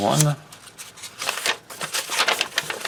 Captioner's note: paper crinkles